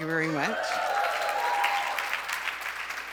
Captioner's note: applause